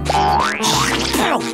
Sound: spitting

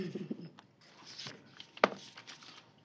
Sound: giggles

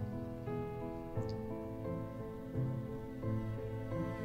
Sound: drools softly

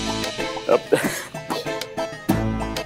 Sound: laughs

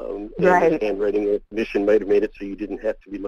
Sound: voiceover

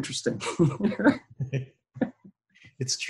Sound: both laugh

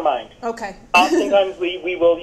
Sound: laughs

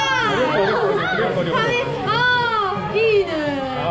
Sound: huge reactions

